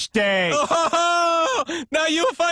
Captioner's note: laughing